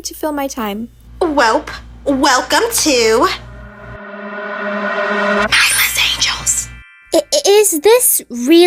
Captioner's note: dramatic pause and then whispers